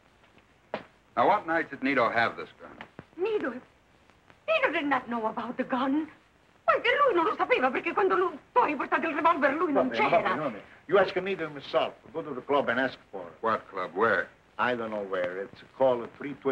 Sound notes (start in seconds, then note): 7.2 non-english speech